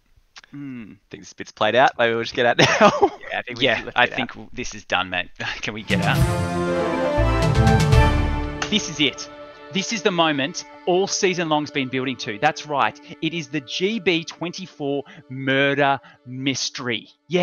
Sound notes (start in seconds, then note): 2.6 laughs; 6.4 news music